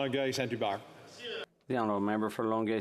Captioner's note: speaking French